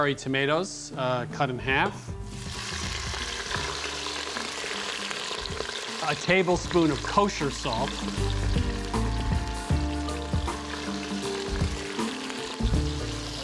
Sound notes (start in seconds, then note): 2.2 sizzling rapidly